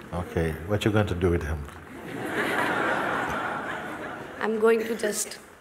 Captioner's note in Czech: smích